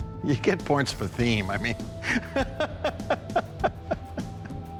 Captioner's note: laughs